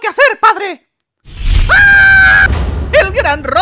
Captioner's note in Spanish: grito adolescente